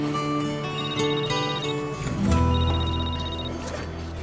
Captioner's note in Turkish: Telefon zili sesi